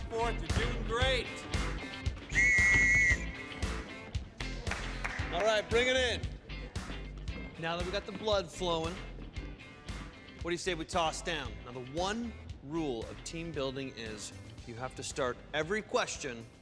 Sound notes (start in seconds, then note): 2.2 whistle blows; 3.3 applauds